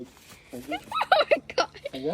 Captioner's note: laughing